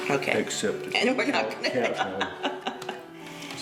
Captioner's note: laughs